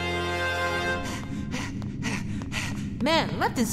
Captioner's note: panting